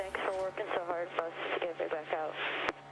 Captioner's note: radio